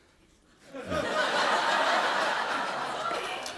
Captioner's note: laughter